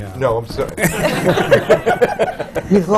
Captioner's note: laughter